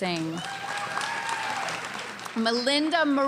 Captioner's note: cheering and applause